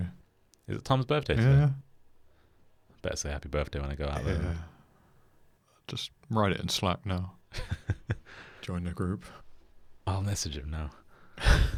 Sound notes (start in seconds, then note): 7.5 chuckles